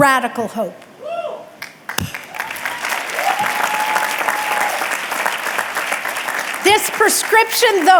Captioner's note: audience clapping and cheering